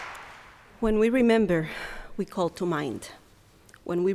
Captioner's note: with Puerto Rican accent